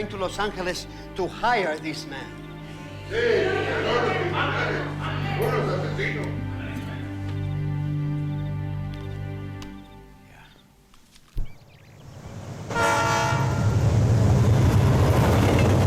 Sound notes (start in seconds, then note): 3.1 group speaking in foreign language; 12.6 train horn honks